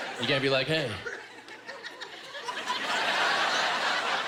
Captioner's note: laughter